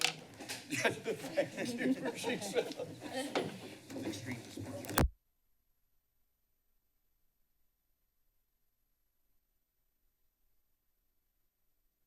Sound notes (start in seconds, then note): 6.0 silence